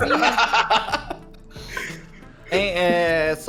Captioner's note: laughs